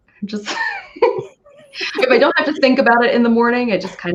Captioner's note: laughing